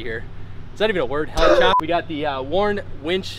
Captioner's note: cameraman laughs